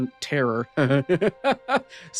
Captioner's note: laughing